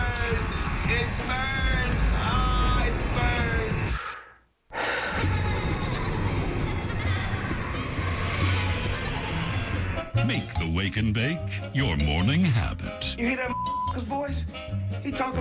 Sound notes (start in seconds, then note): 4.7 blowing air; 5.1 kids laughing